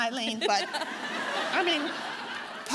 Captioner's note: audience laughing